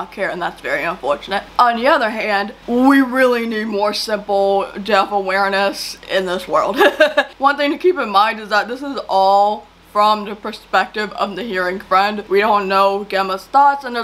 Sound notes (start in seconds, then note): 6.7 laughs